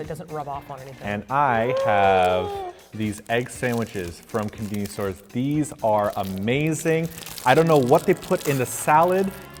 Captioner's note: excited sound